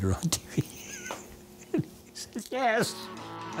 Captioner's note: laughing